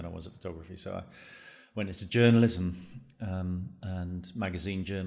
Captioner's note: inhales deeply